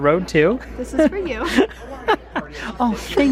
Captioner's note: laughs